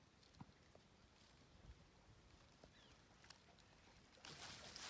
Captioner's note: hawk and birds chirping